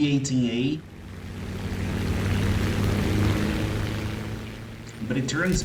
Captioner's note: aircraft Engines ,Gunfire, Flying Sounds